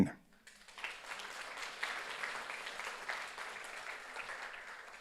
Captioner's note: audience applauds